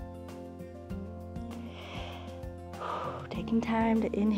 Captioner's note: inhales and exhales